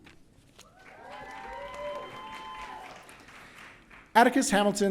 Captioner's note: audience cheering